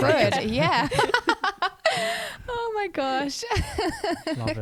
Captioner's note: laughs